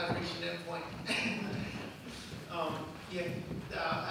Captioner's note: laughs